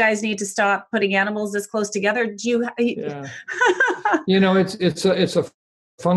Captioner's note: laughs